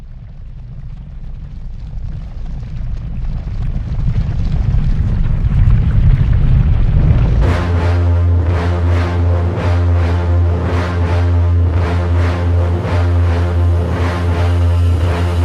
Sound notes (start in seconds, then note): 1.2 loud rumbling; 7.6 intense music